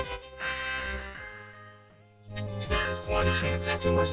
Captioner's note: sighs